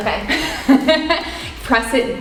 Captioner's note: laughs